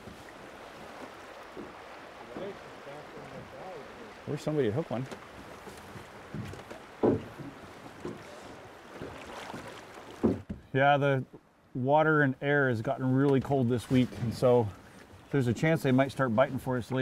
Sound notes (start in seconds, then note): 0.2 background chatter; 8.0 oars splashing